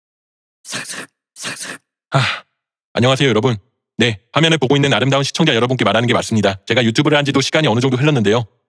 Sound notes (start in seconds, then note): 2.1 sigh